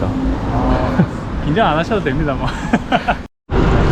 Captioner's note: laughs